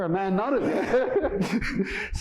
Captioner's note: laughter